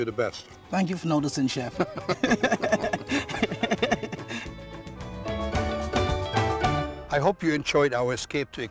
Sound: laughter

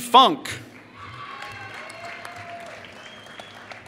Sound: applause

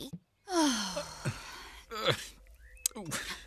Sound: sigh!

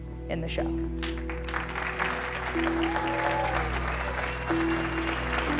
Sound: audience applauds

